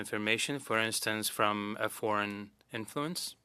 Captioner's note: speaking French